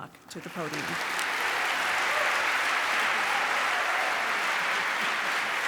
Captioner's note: applause